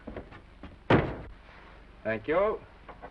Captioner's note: door slams